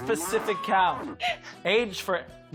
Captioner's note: moos